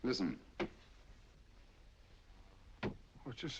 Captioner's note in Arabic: يطرق من بعيد